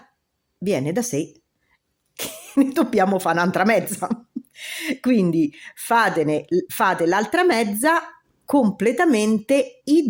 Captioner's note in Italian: risate